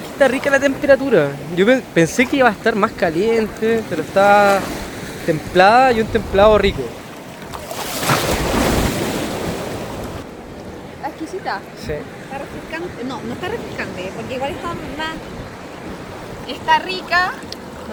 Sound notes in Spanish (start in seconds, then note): none